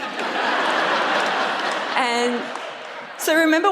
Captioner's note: audience laughs